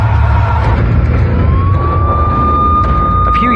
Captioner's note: sirenen w waililing